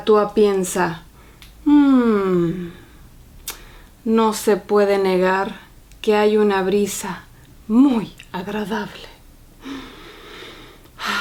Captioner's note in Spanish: inhala